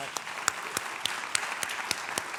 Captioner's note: applause